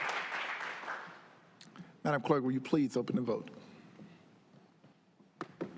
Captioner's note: applause